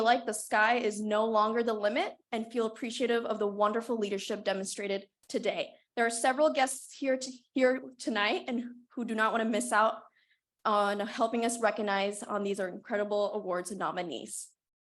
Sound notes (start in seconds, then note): none